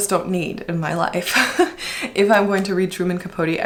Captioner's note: laughs